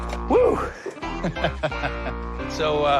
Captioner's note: laughs